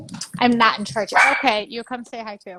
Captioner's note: dog barks